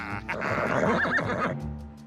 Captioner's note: neighs